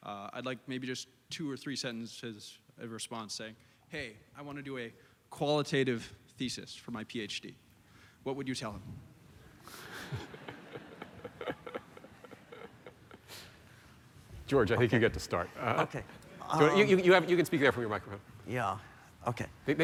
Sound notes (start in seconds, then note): 9.8 laughter